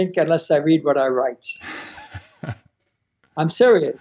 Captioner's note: laughing